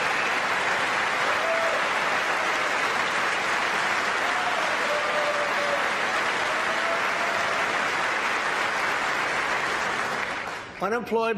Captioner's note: applause